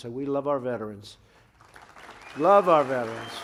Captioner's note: applause